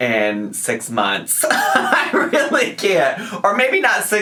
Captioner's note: laughs